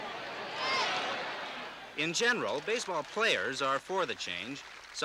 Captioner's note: crowd cheers